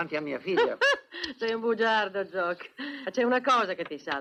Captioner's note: chuckling